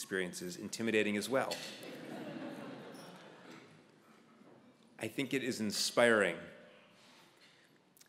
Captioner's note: laugh